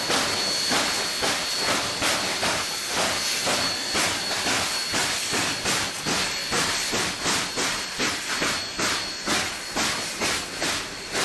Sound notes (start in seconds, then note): 0.0 locomotive chugging